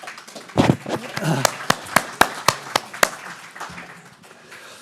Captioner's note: everyone applauding